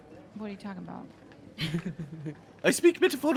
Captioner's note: Cornette laughs